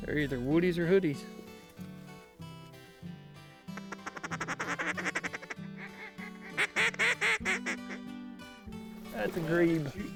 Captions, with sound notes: They're either Woody's or hoodies. (duck call quacking) That's a grebe.